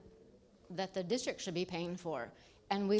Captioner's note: none